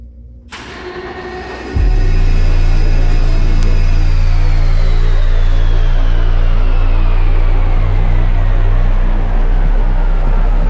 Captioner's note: spaceship landing